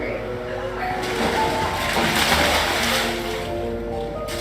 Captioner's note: splashing